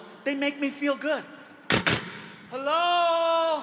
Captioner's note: imitates hand banging